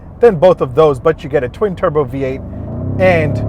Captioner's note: car engine revs